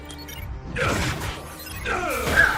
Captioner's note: grunting